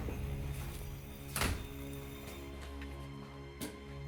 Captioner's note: door shuts